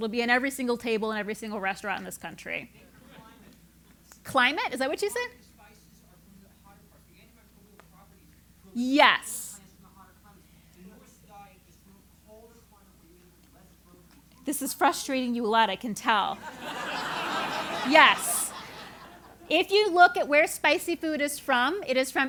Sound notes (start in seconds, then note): 16.3 laugh